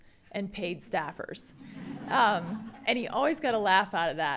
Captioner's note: attendees laughing